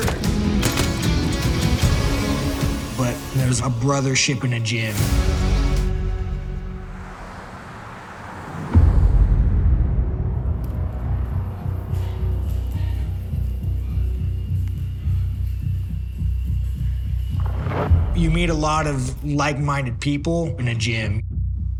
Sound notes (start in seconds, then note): 0.0 gun firing; 5.9 vehicles whooshing; 8.7 foreboding music; 11.7 grunting in background